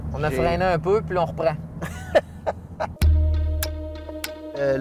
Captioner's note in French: rire